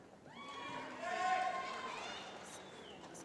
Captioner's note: cheering